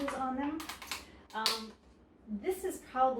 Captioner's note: container creaks